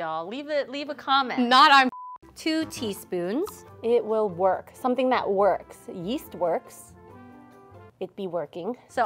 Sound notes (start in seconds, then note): 1.9 beep